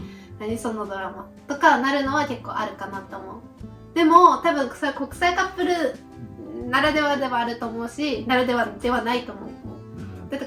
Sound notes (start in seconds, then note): 6.2 laughs